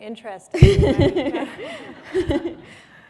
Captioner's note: laughter